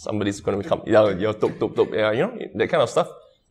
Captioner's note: tok tok tok